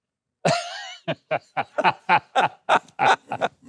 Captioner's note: laughing